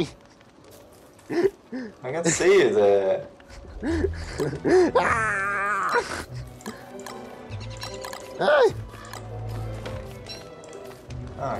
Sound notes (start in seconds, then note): 3.4 laughing